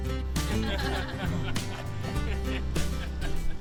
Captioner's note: laughter